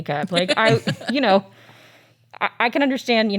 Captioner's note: laughs